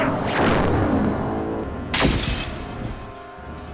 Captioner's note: bracelet shatters; laser pulse